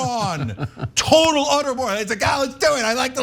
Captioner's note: laugh